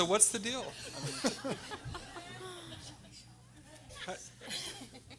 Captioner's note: everyone laughing